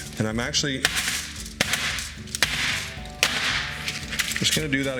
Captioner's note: pan clanking